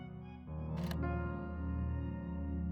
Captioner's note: click